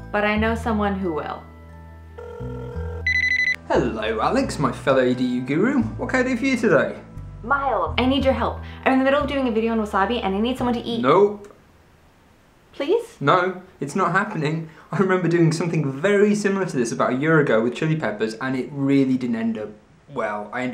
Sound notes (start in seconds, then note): 2.1 telephone ringing